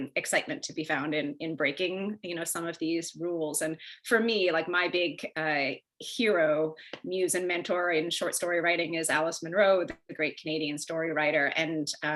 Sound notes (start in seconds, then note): none